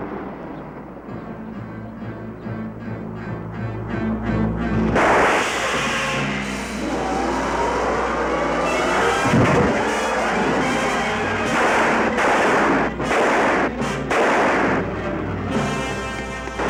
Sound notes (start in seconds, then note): 3.0 menacing music continues; 4.9 weapon firing; 5.0 air hissing; 7.8 car engine revving; 11.5 exciting music; 11.5 weapons firing